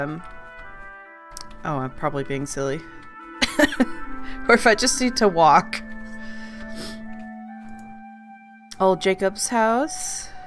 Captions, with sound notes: Oh I'm probably being silly *laughs* Or if I just need to walk *laughing* Oh Jacob's house...